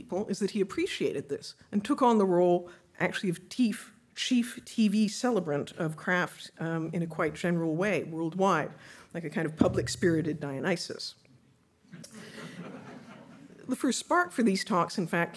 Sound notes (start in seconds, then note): 12.3 audience laughing